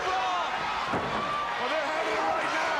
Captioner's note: crowd cheering